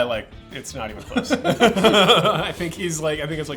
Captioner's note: laughs